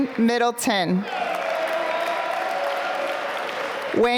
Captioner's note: applause